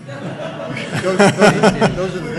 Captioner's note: audience laughing